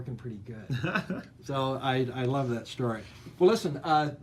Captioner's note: laughs